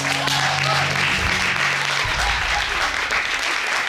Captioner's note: audience applauding